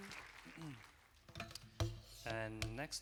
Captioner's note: applause